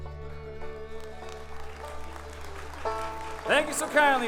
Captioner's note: audience applauding